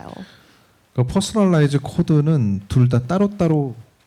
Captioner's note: speaking korean